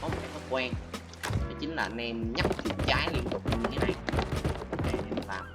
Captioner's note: click